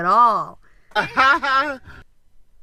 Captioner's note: sarcastic laugh trrack